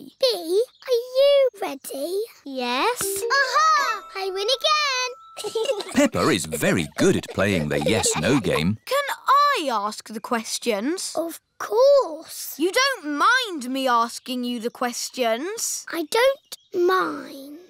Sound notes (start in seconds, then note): 5.4 chuckles